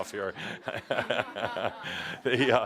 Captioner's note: laughs